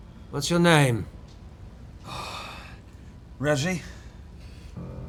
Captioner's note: sighs